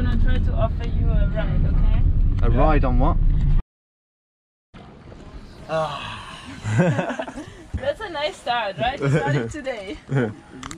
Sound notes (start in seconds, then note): 5.6 sighing; 6.6 laughing